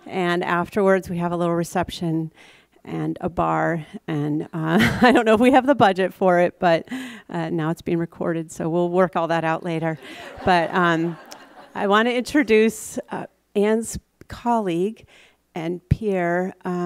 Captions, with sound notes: And afterwards we have a little reception and a bar and (laughs) I don't know if we have the budget for it but now it's being recorded so we'll work all that out later. (audience laughs) But I want to introduce Anne's colleague and peer,